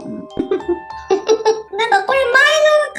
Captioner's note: laughs